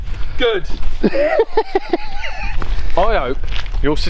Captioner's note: laughs